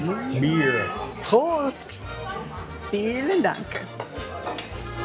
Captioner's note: in German